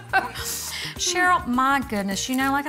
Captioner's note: both laughing